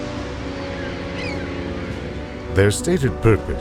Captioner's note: birds cawing